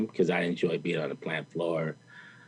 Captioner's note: none